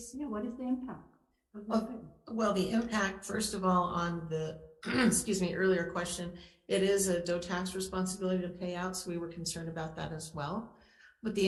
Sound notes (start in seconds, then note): 4.8 clears throat